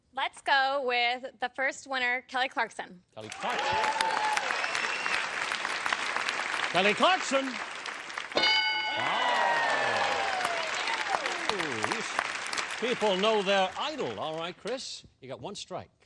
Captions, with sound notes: - Let's go with the first winner, Kelly Clarkson. - Kelly Clarkson. [applause] Kelly Clarkson. [bell] Wow. Ooh, these people know their idol. All right, Kris, you got one strike.